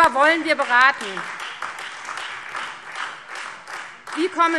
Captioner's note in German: Beifall